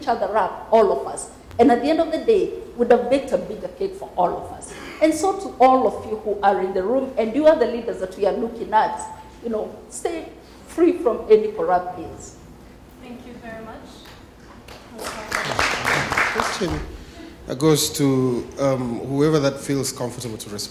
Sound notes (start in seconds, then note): 14.7 applause